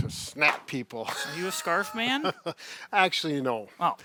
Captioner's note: chuckling